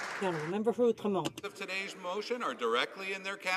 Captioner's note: some Applause